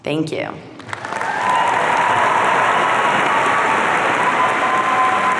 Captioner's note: audience cheering